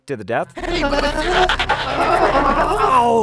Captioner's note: glitching